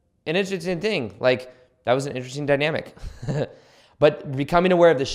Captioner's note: chuckles